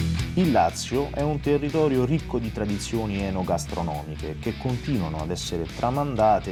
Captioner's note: voice-over